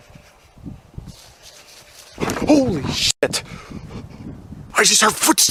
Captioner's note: sounds in the grass